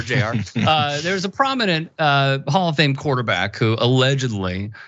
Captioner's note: laugh